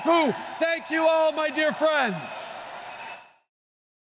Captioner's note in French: Acclamations et applaudissements